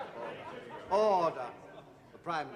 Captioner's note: chatting; laughing